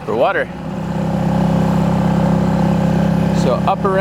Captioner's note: trolling motor purring loudly